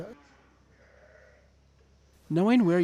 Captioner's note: sheep baaing